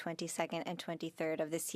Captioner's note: speaking French